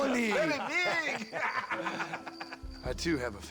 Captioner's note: laughs